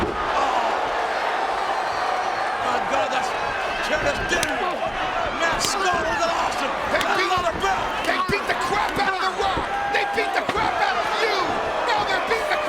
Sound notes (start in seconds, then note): 0.3 crowd cheering; 2.8 presenter speaking faintly off mic